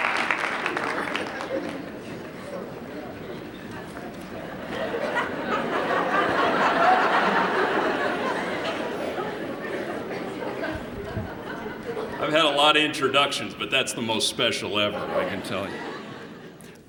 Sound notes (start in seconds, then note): 4.3 laughter